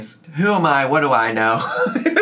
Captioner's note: laughs